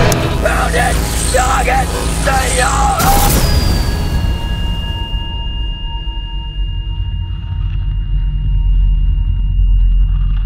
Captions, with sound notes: Pound it! Noggin! See ya! [ZAPPING]